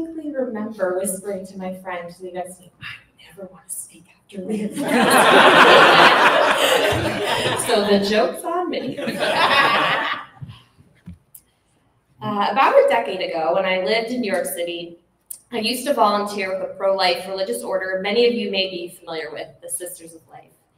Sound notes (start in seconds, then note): 4.7 laughter; 8.9 laughter cont